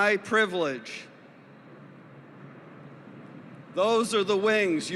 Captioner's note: sound of an airplane flying above